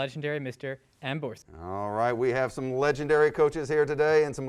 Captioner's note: none